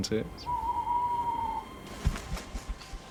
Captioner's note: Qornelius HOOTS AND FLIES DOWN